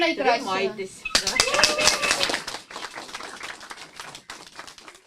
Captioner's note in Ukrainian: оплески